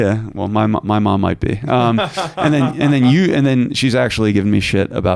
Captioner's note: laughing